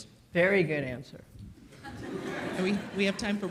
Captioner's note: audience laughs